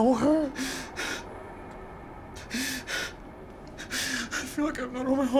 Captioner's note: gasping